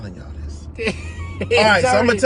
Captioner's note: laughter